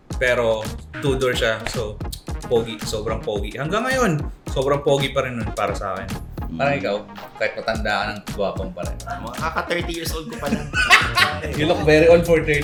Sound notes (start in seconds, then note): 9.2 laughs